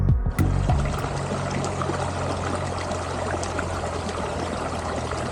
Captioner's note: river and birdsong